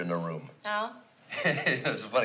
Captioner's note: laughing